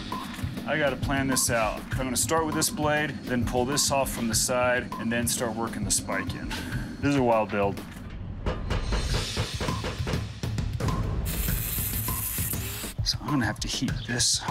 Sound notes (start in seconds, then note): 7.8 hammering; 10.6 whirring